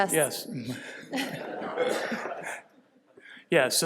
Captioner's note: laughter